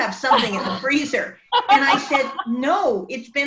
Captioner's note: woman laughs